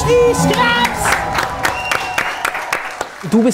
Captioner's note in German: Jubel, Applaus